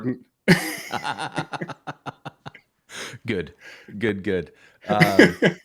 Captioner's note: laughter